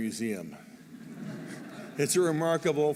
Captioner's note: laughter